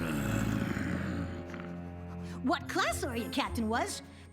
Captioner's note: groans